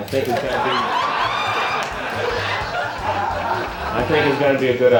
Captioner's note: laughter